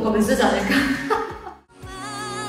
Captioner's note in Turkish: Hahaha